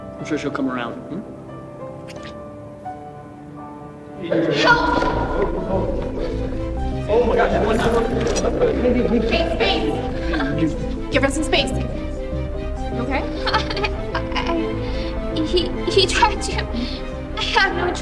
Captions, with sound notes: I'm sure she'll come around. Help! (Crashes) Space! Give her some space You okay? I... he tried to. I had no choice